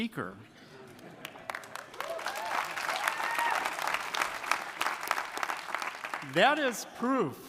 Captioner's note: audience applauding; audience cheering